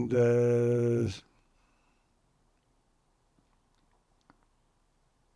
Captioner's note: pauses 13 seconds